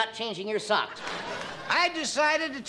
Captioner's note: crowd laughing and clapping